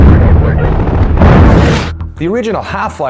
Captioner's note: explosion; static